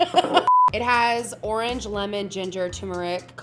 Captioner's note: laughs; beep